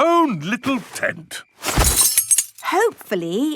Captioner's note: clang-ruffle-thump